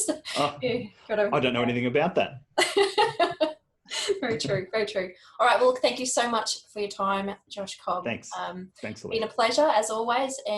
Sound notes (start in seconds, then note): 2.6 laughs